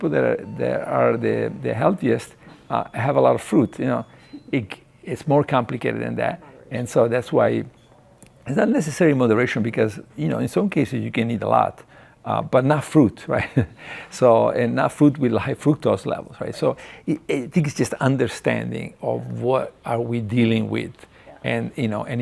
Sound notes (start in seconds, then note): 13.4 chuckles